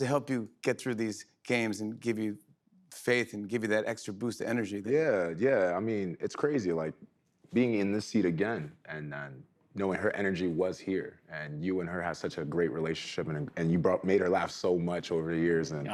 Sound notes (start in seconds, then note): none